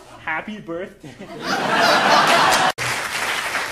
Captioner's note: audience laughing